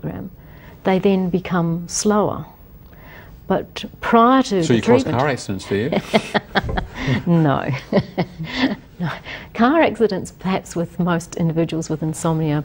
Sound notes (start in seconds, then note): 5.6 laughs